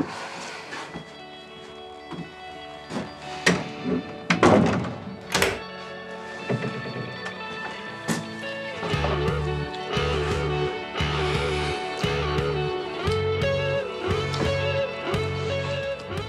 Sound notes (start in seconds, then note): 0.2 soft music; 3.4 door creaking; 7.8 upbeat music